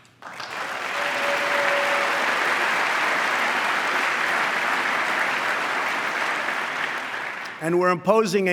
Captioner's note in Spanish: aplauso